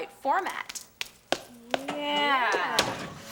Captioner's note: Morgan claps hands